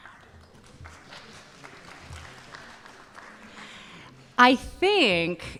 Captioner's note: audience applauding